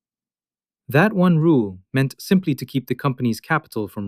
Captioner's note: thoughtful